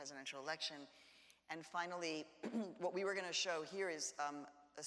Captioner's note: clears throat